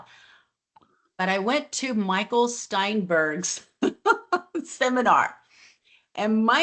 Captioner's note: laughs